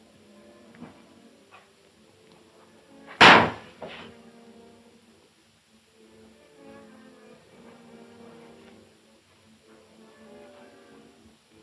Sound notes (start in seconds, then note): 3.2 door slams; 6.6 gentle orchestral music